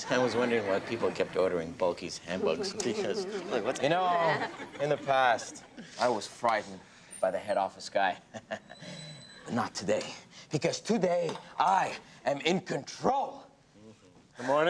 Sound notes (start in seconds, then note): 8.1 chuckles